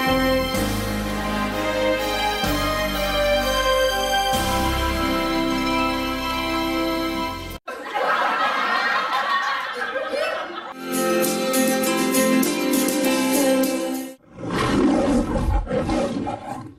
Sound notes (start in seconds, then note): 7.6 audience laughing; 14.2 Leo the Lion roaring